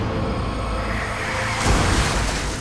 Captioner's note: tires screeching